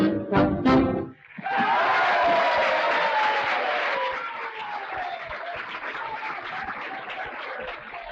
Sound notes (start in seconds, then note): 1.1 audience applauding; 1.2 audience cheering